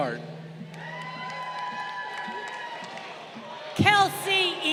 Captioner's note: crowd cheering